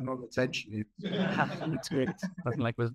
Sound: audience laughing

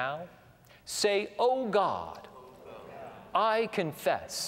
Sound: audience repeats prayer throughout

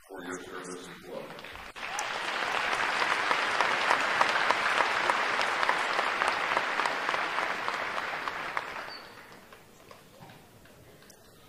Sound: cheering and applause

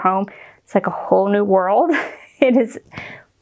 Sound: chuckles

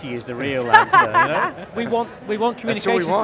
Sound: laughs

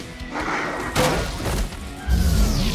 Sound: crashing

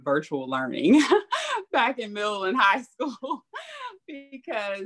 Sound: laughs

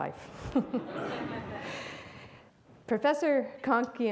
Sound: audience laughs

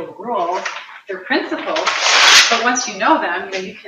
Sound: paper tearing

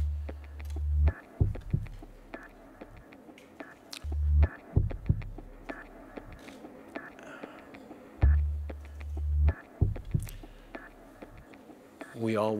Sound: brief pause

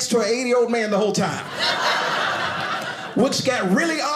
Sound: audience laughing

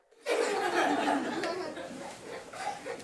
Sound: laughter

